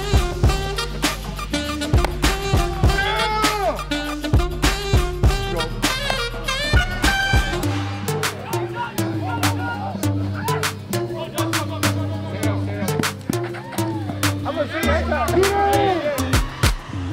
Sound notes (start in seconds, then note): 2.0 crack of the bat; 6.1 crack of the bat